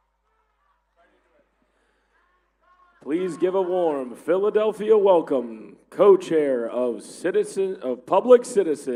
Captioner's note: applause